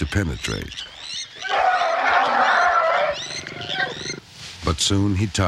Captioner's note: elephant wails